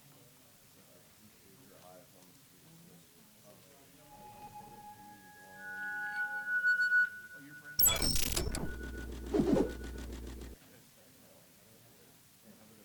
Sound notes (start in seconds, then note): 4.1 high-pitched electronic squealing and sizzling